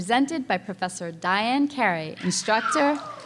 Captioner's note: cheering